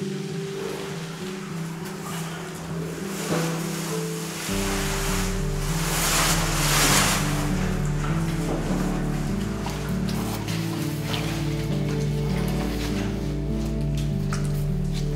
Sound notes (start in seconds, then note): 0.0 flowing water, flowing piano; 3.1 person sliding down rock face; 7.5 flowing water, flowing piano